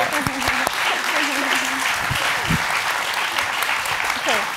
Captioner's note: audience applauds